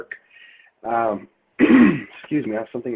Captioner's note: clears throat